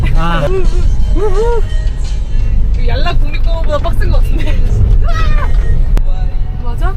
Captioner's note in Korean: 덜컹 덜컹